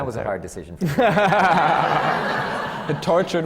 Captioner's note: laughter